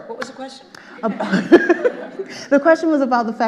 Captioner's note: all laughing